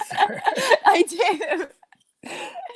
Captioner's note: laughs